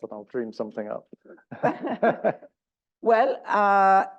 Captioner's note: laugh